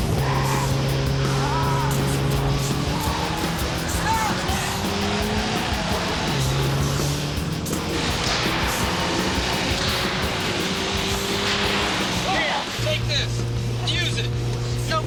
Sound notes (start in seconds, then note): 0.1 intense rock music; 0.1 tires screeching; 7.5 gunshots popping